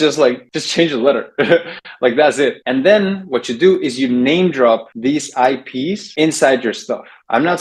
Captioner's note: laughs